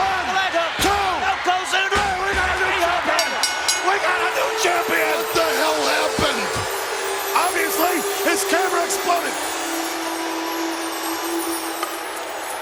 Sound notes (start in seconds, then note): 3.5 bell rings; 5.4 peaceful music